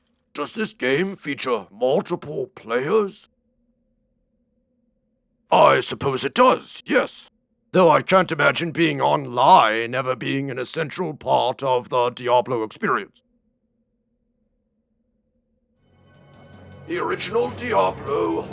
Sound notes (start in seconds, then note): 14.4 pointed silence